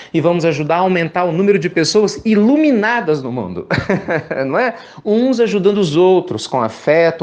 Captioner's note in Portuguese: risos